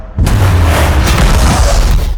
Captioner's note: loud explosion